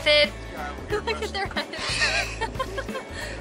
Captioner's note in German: Lachen